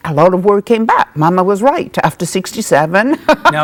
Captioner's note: laughs